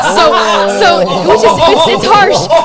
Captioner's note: laughs